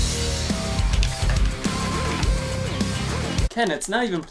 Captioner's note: buttons rattling